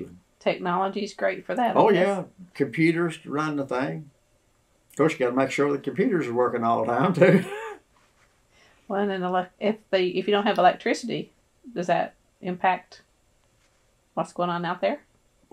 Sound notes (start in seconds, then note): 6.9 laughs